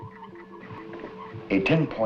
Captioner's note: buzzing